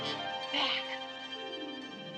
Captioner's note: whispering